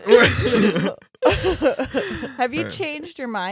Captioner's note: laughing